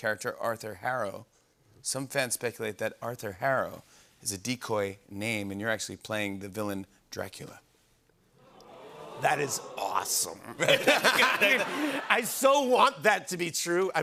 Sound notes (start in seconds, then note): 8.4 audience ohhs; 8.4 laughter